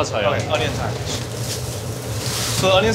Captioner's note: onions clattering